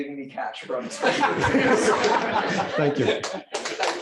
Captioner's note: laughter